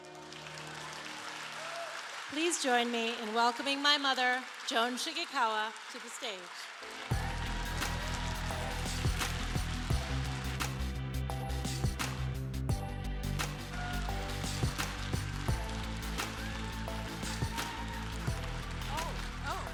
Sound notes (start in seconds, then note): 7.6 applause